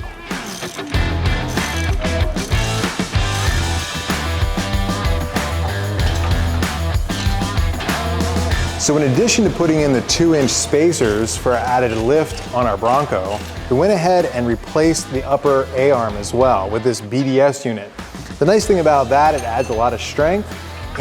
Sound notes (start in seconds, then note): 0.4 socket Wrenching; 6.2 metal Clanking